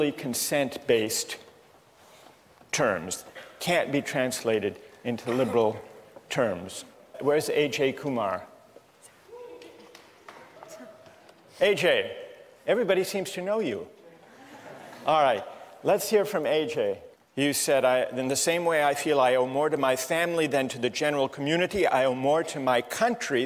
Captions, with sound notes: consent-based terms, can't be translated into liberal terms. Where is A.J. Kumar? [CHEERS] A.J., everybody seems to know you. [LAUGHTER] All right, let's hear from A.J. You said, "in the same way I feel I owe more to my family than to the general community, I owe more to my country